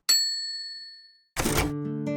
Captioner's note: bell rings; slow music